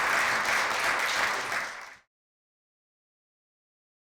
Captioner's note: applause